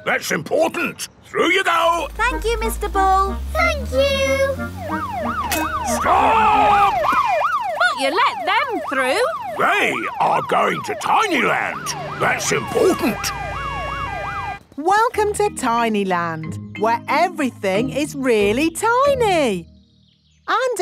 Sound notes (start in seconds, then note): 5.2 siren wailing; 13.5 sirens wailing